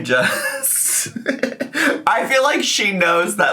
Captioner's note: chuckling